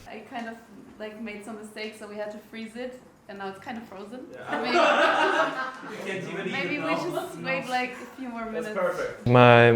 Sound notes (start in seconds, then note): 4.4 group laughing